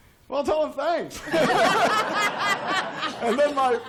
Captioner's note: laughter